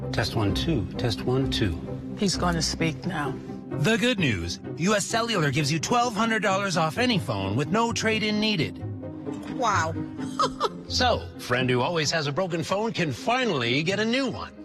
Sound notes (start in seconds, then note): 10.2 laughs